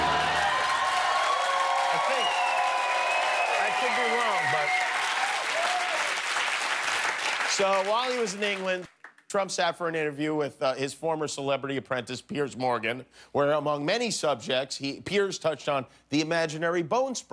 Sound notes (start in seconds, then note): 4.7 cheers and applause; 9.6 applause